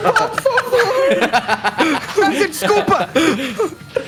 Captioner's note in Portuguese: Risadas